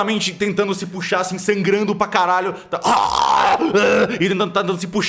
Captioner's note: ooaarrh